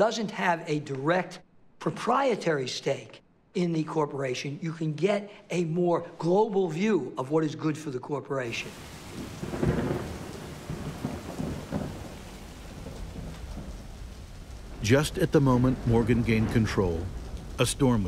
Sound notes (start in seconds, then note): 8.9 thunder rumbling